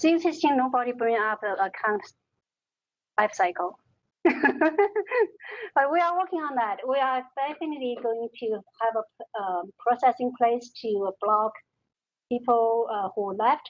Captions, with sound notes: - Since nobody bring up account web cycle. (laughs) But we are working on that, we are thankfully going to have a processing place to block people who left Stanford.